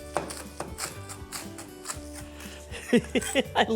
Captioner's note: chopping sounds